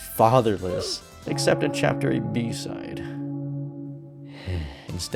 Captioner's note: death sighs